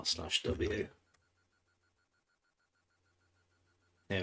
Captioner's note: typing